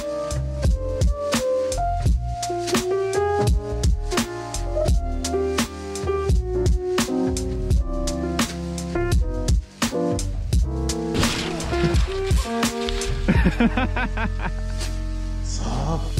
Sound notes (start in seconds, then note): 13.2 laughing